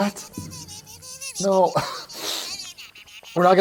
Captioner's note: sniff